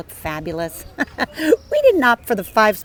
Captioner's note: chuckling